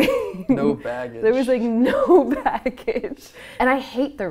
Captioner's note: laughing